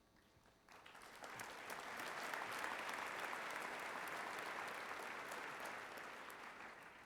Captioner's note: applause